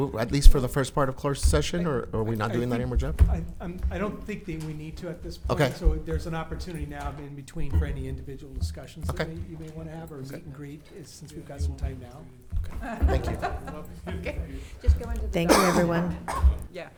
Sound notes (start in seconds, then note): 12.8 laughs